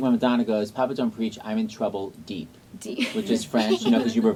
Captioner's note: laughs